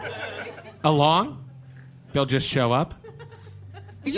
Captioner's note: audience laughter